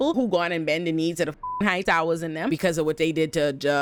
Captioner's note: beep